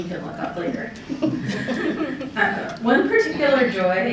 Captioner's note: laughter